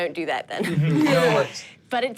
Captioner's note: everyone laughs